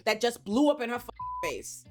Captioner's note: beep